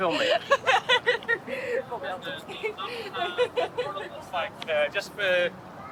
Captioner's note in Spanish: las chicas se ríen